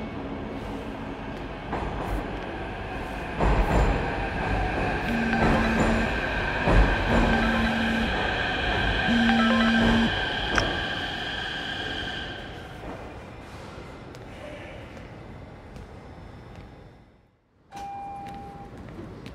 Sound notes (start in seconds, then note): 5.3 phone beeping and vibrating